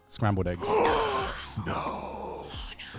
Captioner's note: gasping